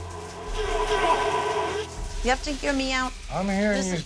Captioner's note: yelling